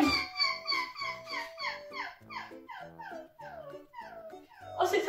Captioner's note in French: Bruit de chien qui pleure